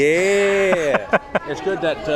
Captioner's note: laughs